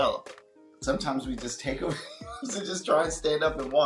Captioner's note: laughs